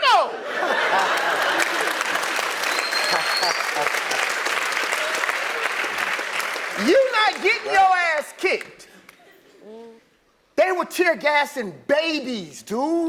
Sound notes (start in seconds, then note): 3.0 laugh; 5.4 applause; 5.4 laugh